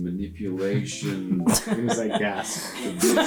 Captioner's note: laughter